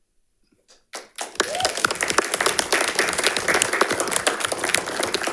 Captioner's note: audience applauding